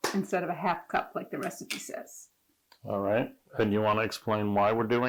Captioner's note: none